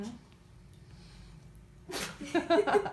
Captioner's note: laughing